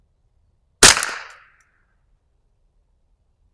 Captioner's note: gunshot